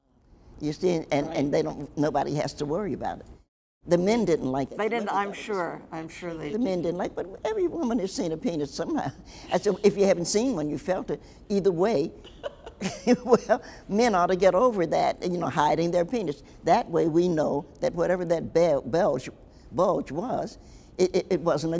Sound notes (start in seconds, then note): 12.2 laughs; 12.2 Nikki laughs